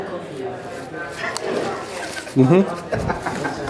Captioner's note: chewing loudly